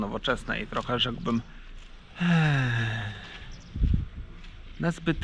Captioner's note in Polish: głębokie westchnięcie